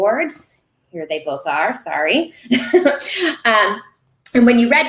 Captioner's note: laughing